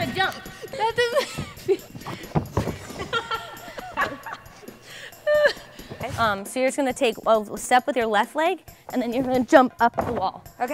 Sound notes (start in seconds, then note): 2.5 laughing